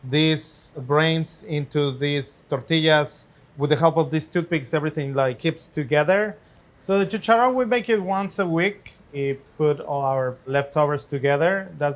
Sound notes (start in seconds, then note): 6.9 speaks Spanish